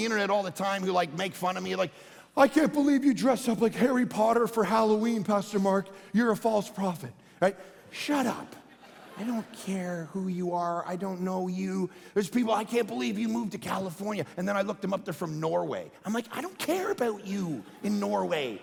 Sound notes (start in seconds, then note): 7.9 congregation laughing